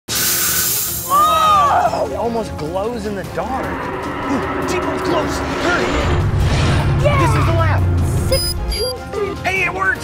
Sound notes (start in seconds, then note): 0.2 steam whooshing; 3.3 dinosaur roaring; 6.0 dinosaur stomping